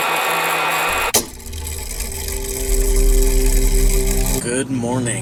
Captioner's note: mechanism whirring